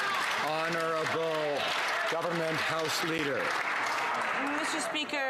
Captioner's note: some Applause